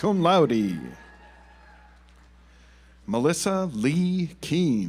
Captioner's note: audience applauds